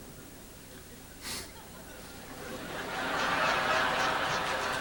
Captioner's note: laughter